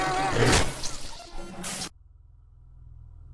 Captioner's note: Bigfoot growling; Dillon screaming; glitch